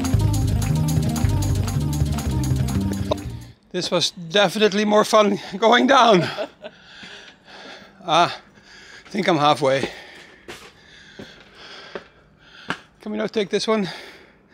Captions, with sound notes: This was definitely more fun going down. (laughing) I think I'm halfway. Can we not take this one?